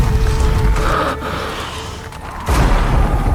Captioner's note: storm winds roar as people flee, sparks crackle and horns blare; breathing; devastating music